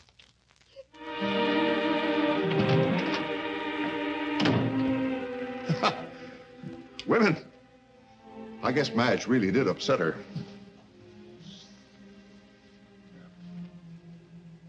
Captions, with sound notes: (Doris sobs) (soft orchestral music) (laughs) Women. I guess Madge really did upset her. Here.